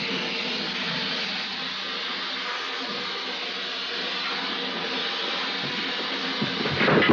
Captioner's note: sound of blowtorch continues; sculpture falls down and bangs on the floor